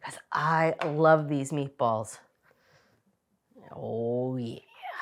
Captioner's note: none